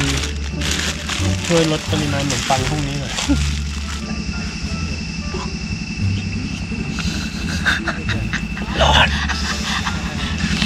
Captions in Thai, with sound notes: ช่วยลดปริมาณขนมปังพรุ่งนี้หน่อย พอง! *ขำ* ร้อน!